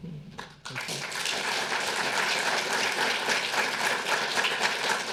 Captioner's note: audience applauding